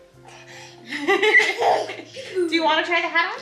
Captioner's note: laughs